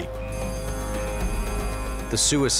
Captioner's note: alarm ringing